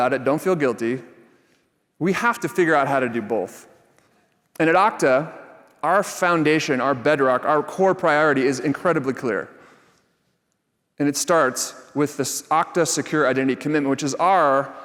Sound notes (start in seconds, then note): none